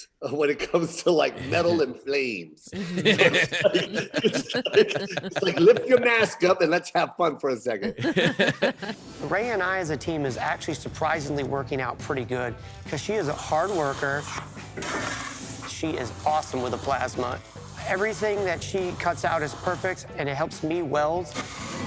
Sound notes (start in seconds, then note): 2.7 laughing; 7.9 laughing; 9.8 upbeat music; 14.2 welding torch sizzling